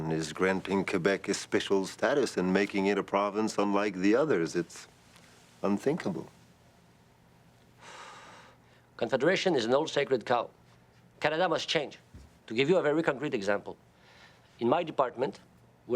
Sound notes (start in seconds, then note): 7.8 exhales